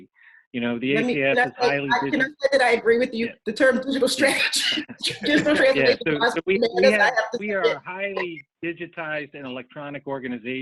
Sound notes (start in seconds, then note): 4.9 all laughing drowns out speaker